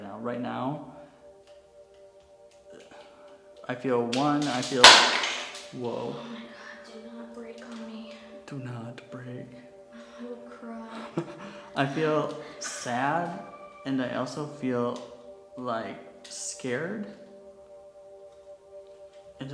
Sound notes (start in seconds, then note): 4.8 equipment crashes